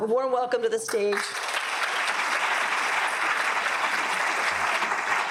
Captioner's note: audience claps